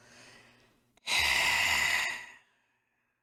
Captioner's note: sigh